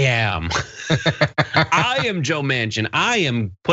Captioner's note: laugh